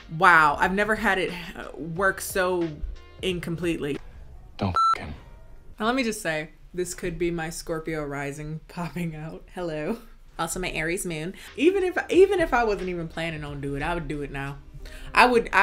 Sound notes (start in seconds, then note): 4.6 beep